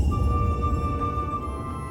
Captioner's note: rumbling